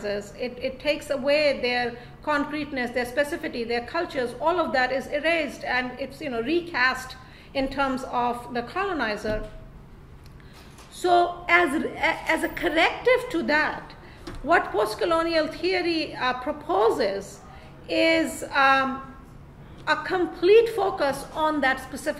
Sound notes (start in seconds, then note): none